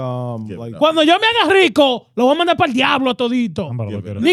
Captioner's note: speaking Foreign Language